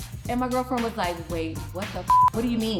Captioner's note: beep